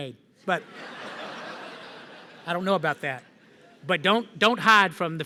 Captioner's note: laughter